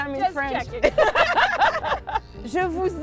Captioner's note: laughing